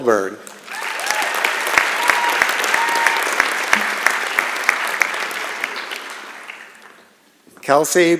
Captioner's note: applause and Cheering